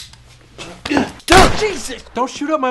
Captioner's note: gun fires